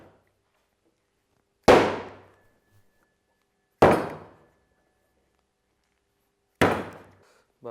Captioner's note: banging clay on the table